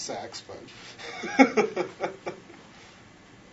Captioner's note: laughs